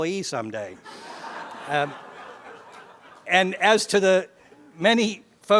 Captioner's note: laugh